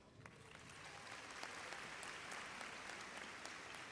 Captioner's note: applause